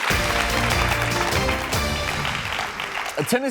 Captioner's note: audience applauding